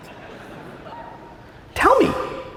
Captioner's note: audience laughing